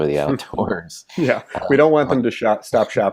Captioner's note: both chuckle